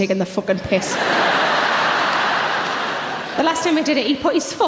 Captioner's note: audience laughs